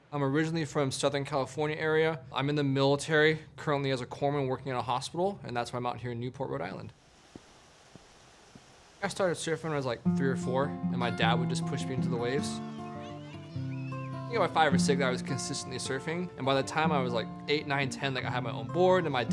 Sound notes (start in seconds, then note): 13.2 children chattering; 13.2 gentle guitar music